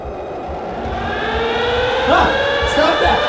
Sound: loud siren; groaning

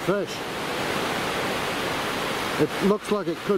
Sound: waves crashing

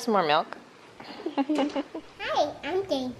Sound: giggles

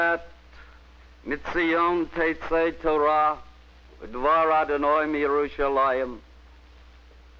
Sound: Hebrew words not captioned

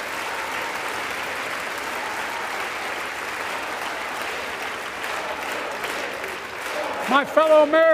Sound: applause

